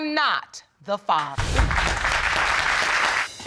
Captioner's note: audience applauding